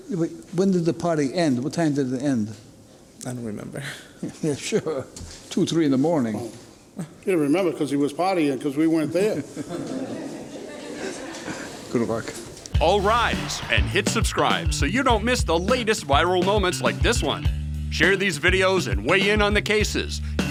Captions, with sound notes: Yeah, but when did the party end? What time did it end? I don't remember. (chuckling) Yeah sure, two, three in the morning. He didn't remember, because he was partying because we weren't there. (spectators laugh) Good work. All rise, and hit subscribe so you don't miss the latest viral moments like this one. Share these videos and weigh in on the cases.